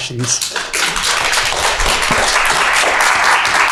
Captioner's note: audience clapping